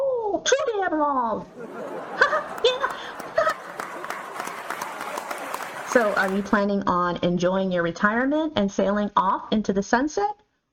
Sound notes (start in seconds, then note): 0.0 giggles; 1.4 audience laughter; 1.4 giggles